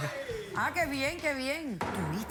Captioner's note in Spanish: risas; risas